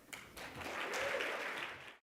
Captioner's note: audience applauding